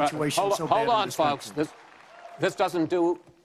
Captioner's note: applause